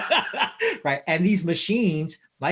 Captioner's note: laughs